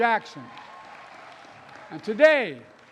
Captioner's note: applause